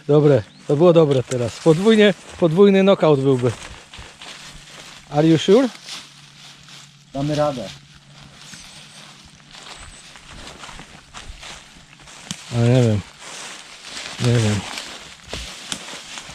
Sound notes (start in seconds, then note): none